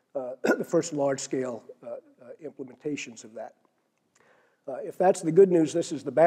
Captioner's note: cough